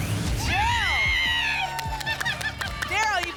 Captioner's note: screams